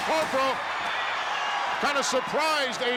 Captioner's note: crowd cheers